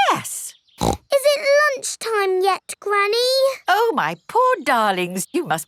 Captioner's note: snorts